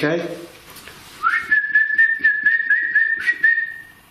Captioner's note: whistling